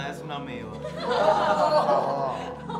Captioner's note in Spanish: Risas